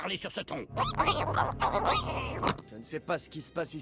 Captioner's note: unbearable alien noise